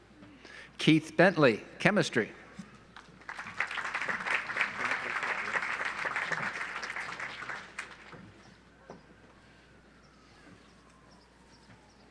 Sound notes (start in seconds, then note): 3.0 audience applauds